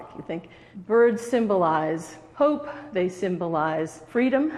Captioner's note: none